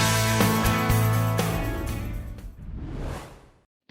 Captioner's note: whoosh; whoosh